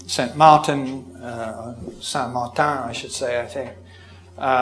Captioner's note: French accent